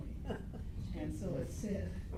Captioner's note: laughs